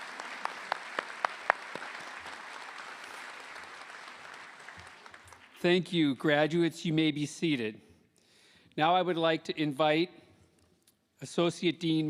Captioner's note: applause